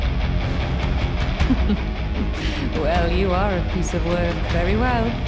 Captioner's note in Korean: 웃음